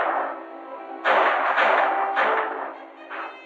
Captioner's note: gunshots